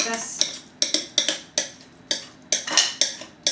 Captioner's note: spoon scrapes